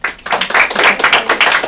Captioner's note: applause